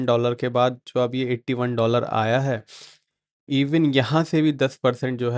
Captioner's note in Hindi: नाक से की जाने वाली आवाज़